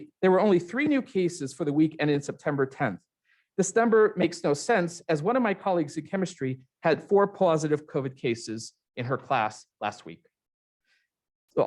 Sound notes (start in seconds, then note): none